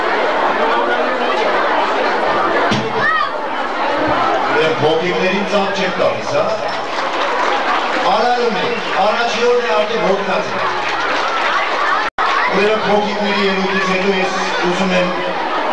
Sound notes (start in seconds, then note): 6.6 people applauding; 11.2 applauding continues